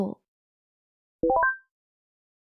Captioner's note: message notification sound